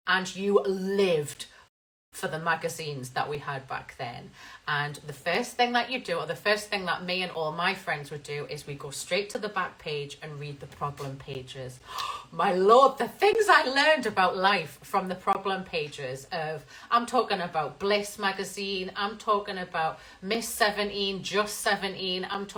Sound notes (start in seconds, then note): 11.8 gasps